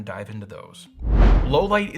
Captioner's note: whooshing